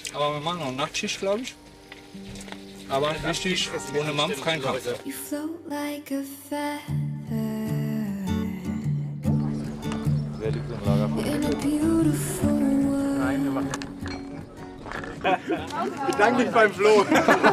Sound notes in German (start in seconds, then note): 15.0 Lachen, leise Gespräche